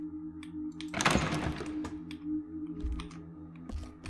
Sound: door Rattles

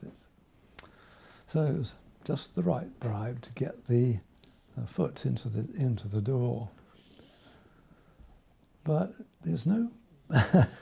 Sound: laughs

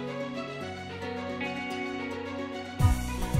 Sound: mouthing

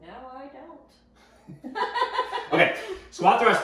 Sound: chuckling

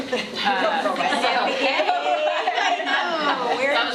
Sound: laughing

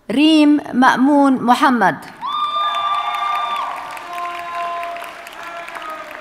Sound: audience cheers and applauds

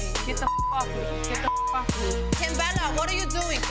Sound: beep

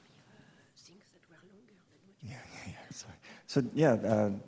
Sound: both murmuring

